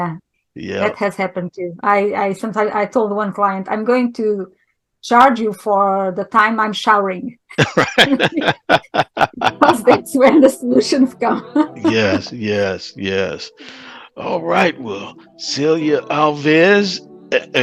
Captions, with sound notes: - Yeah, that has happened too. I sometimes, I told one client, "I'm going to charge you for the time I'm showering." - Right. [laughing] - Because that's when the solutions come. [laughing] - Yes, yes, yes. All right, well, Celia Alves